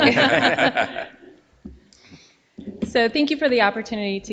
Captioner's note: all laughing